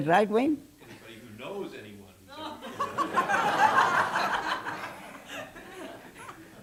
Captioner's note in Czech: smích